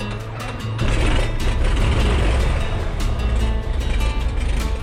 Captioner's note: plane engine revving